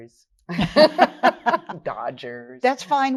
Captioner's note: all laugh